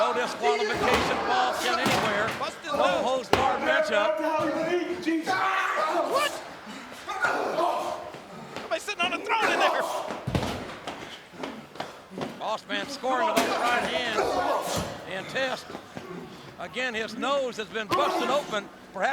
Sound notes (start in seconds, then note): 6.6 Test groans; 7.2 Boss Man grunts